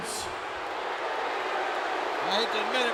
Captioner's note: audience booing